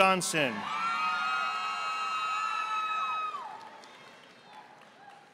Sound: audience applauding

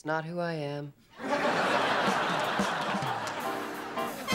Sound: laughter

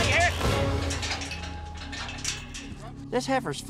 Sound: pen gates clanging

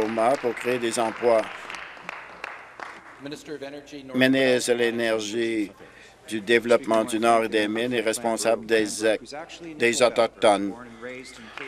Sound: applause

